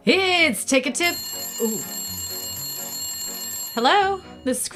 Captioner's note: phone ringing